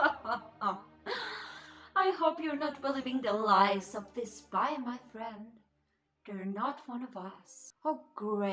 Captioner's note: laugh